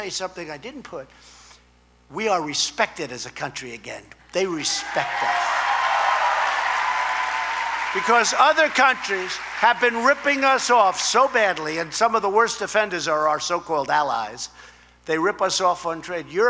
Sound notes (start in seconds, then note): 4.5 applause